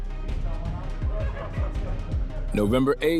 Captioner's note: muffled chatter